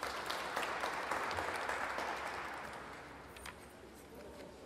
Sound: audience applauding

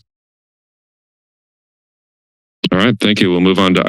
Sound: silence

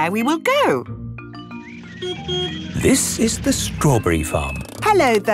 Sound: beeps

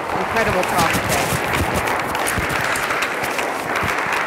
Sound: applause

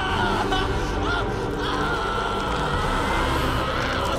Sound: continued screaming

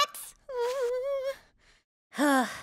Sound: whimpering; sighing

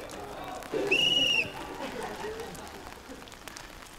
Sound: blows whistle

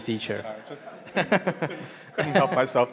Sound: laughing

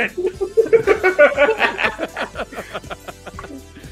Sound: laughter

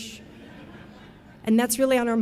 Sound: audience laughing

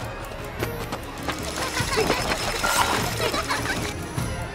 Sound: kids laughing

